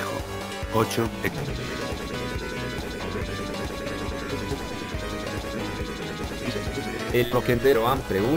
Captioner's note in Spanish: Risa distorsionada